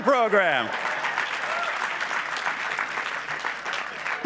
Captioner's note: applause